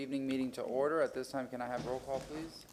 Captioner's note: sounding gavel